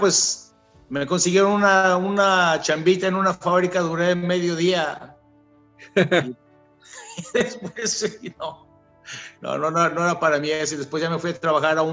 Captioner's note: laugh